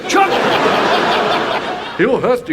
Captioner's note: audience laughs